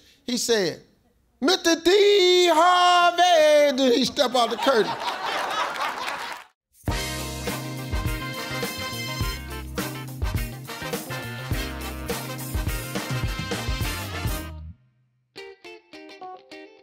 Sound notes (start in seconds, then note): 4.1 audience laughs; 6.8 upbeat music